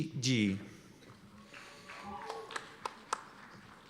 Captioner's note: applause